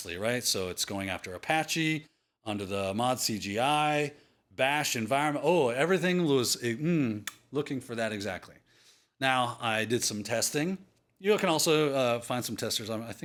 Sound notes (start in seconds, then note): 7.2 smooch